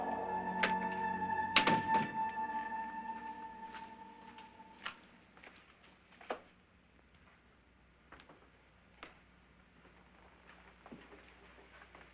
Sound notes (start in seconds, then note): none